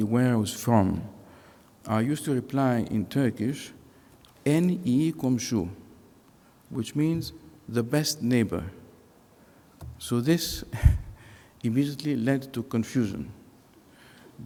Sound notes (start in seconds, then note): 4.4 speaking foreign language